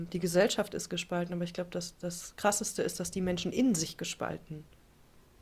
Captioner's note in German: none